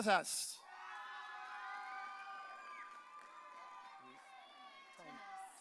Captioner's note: audience cheering